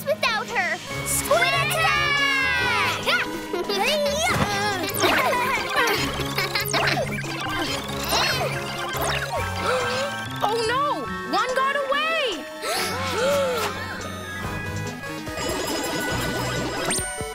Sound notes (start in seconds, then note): 4.4 Dot laughing; 6.6 gasps; 12.6 all gasping